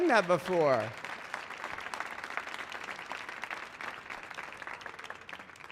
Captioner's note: audience clapping